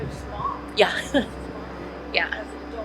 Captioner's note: laughs